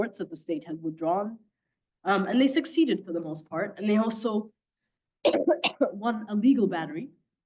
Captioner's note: coughing